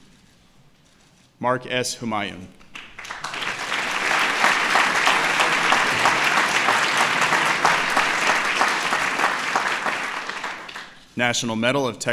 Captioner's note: applause